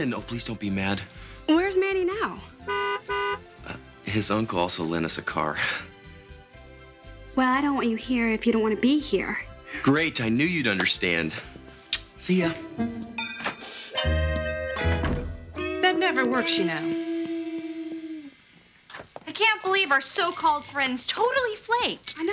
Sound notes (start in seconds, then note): 2.6 car horn honks; 13.5 whimsical music